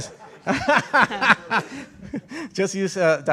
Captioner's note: laughter